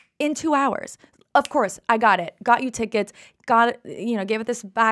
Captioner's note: snaps fingers